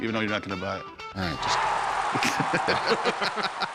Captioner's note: cheering; laughter